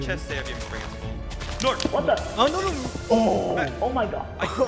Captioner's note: general chatter; sounds of panic